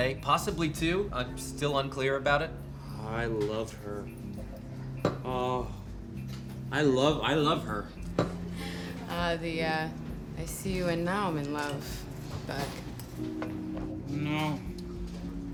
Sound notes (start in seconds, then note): 2.9 drunkenly; 5.3 sighs